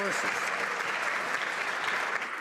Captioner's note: some Applause